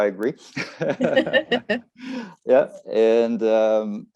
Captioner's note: both laugh